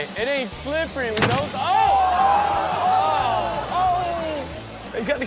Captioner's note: audience gasps